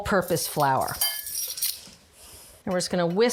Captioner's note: spoon clanging